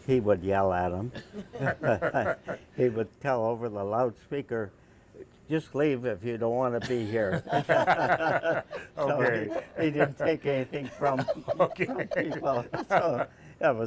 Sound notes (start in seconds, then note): 1.1 laughter; 8.3 laughter